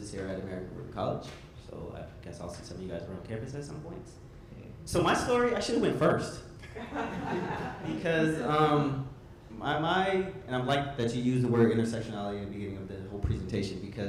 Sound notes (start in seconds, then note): 6.7 audience laughs